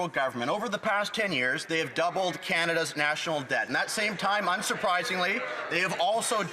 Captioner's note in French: voix de l'interprète